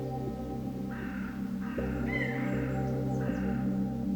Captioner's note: birds cawing